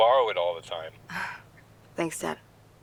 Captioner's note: scoffs